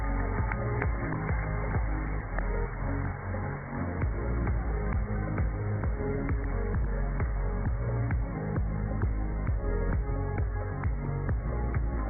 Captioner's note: cheers and applause